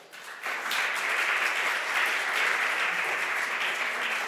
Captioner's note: audience applause